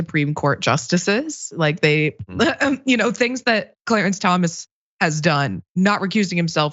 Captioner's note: laugh